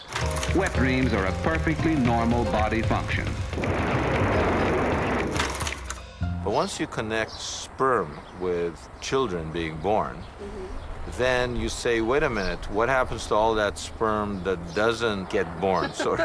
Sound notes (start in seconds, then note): 3.3 wind blowing